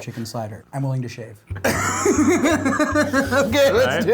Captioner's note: laughing